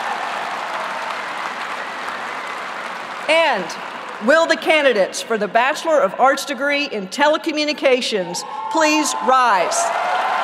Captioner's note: applause